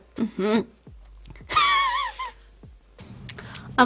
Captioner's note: laughs